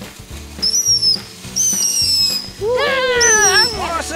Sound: firework whistles

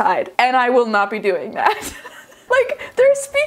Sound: laughs

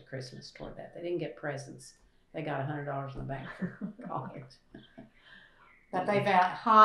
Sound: laughter

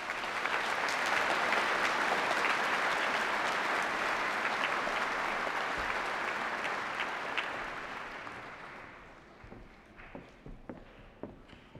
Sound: applause

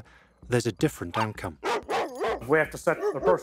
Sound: dogs barking

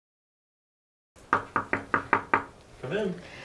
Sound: nurse knocking

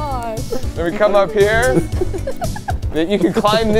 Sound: laughing

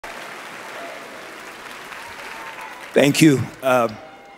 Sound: audience clapping

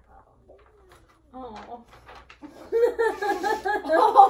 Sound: everyone laughs

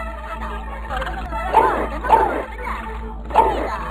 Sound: hiccups

